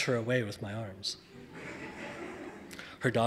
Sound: audience laughing

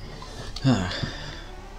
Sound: sigh of relief

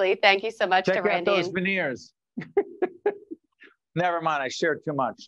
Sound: laughing

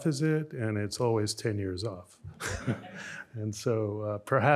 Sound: chuckles

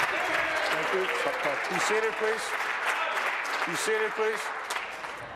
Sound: applause

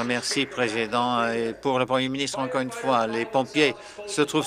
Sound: applause

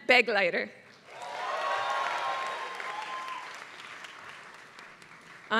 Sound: applause

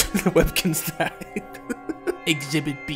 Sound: laughing; laughs

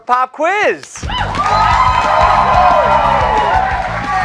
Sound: cheers and applause

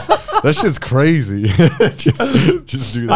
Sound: laughing

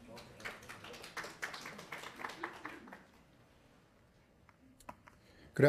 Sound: attendees clapping

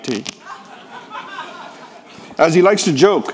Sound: people laughing

